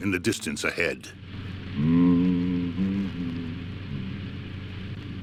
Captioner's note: humming continues